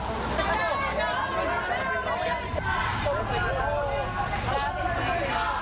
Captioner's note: protestors chattering